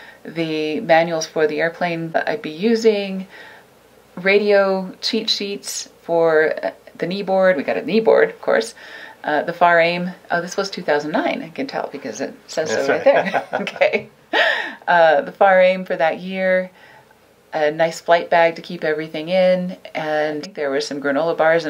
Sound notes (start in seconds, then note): 12.6 laughing